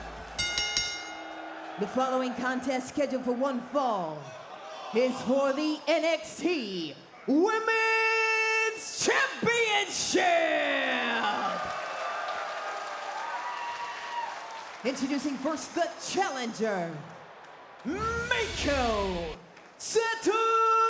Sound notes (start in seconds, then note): 10.4 applause